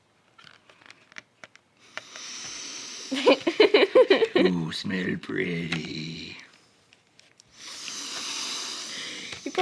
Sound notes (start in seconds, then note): 1.8 inhales; 7.5 inhales